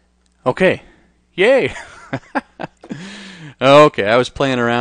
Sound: laughs

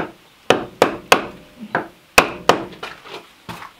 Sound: tools pounding

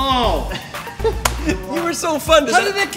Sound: chuckles

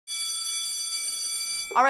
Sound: school bell

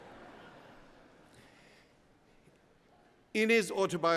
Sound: laughter

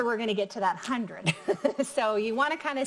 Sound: giggling

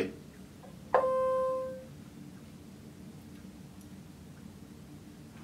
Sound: machine beeping

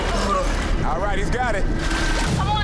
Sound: water splashing

